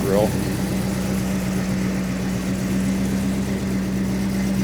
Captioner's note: engine roaring